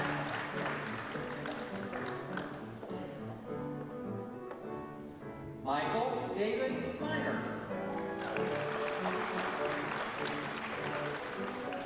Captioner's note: applause